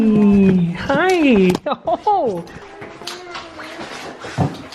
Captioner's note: laughs